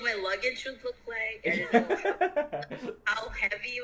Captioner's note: laughing